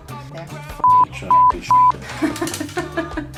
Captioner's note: cursing